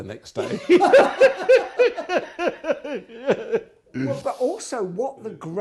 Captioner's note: laughing